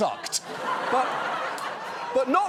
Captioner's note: laughter